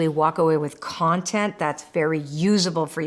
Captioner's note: none